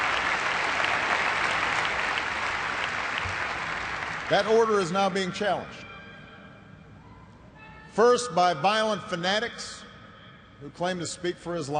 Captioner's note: applause